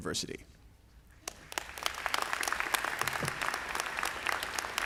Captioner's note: audience applauding